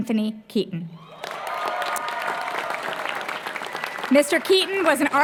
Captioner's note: applause